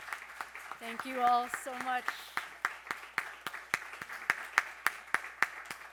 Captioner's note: audience applauding